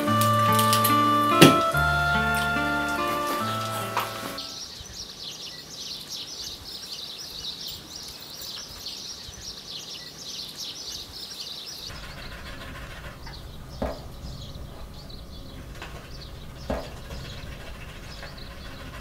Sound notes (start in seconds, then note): 4.8 birds chirping; 12.0 distant birds chirping; 12.0 dog rapidly panting; 13.8 water droplets thumping